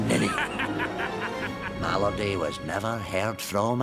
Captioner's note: laughing